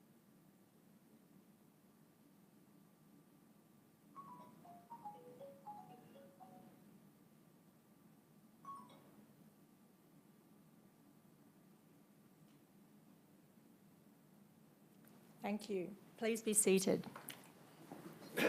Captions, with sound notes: (cellphone rings) Thank you, please be seated.